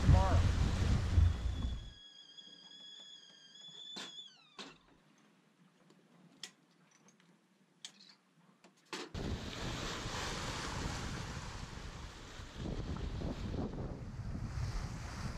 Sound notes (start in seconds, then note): 1.2 teapot whistling; 10.9 wind and wave sounds